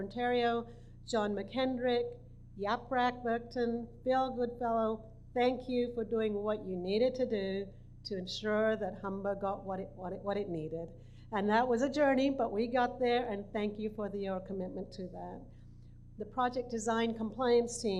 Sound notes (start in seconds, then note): none